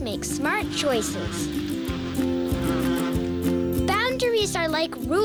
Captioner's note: bee buzzing